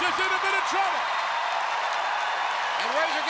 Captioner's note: crowd cheering